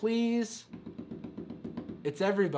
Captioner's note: tapping on table